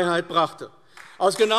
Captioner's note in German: Beifall AfD